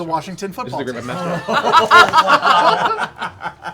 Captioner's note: laughter